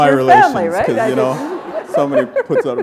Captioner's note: chuckle